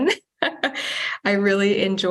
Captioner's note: chuckles